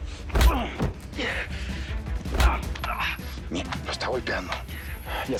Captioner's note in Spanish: Golpes; Quejidos